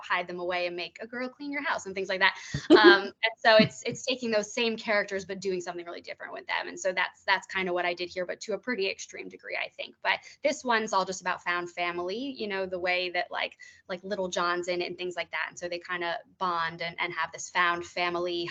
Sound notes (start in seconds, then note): 2.6 chuckling